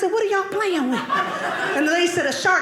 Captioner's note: audience laughing